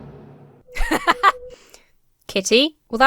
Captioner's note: laughs